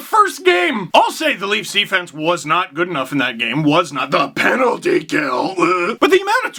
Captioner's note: vomit noise